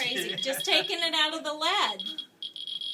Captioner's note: laughter